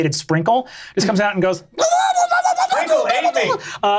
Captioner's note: imitates shrill squealing